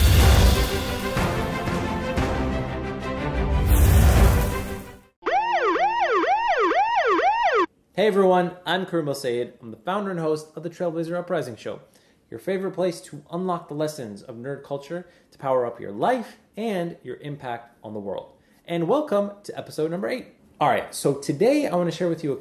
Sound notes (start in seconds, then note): 0.0 dramatic music; 5.2 siren whooping